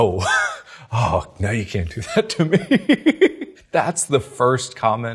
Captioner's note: laughs; laughs